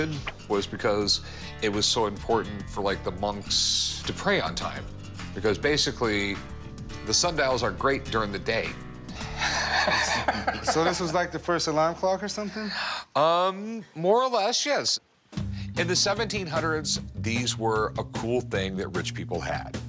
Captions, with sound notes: was because it was so important for like the monks to pray on time because basically the sundials are great during the day. (guys laughing) - So this was like the first alarm clock are something? - Um, more or less. Yes. In the 1700s, these were a cool thing that rich people had.